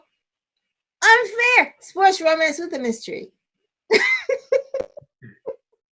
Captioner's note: laughter